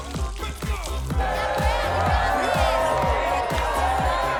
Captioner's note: cheering